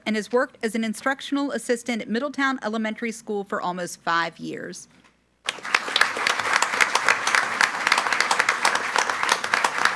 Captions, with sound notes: and has worked as an instructional assistant at Middletown Elementary School for almost five years. (group applauding)